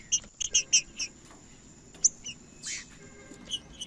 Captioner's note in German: trinca ferro cantando